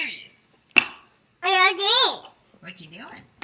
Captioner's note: baby chattering